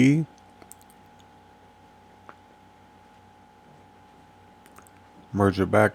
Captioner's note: silence